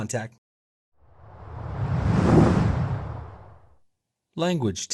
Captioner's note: air swooshing